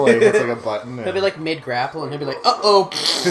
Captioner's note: laughing; farting noise; laughing